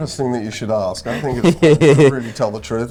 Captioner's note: Pope laughing